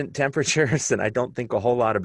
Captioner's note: laughter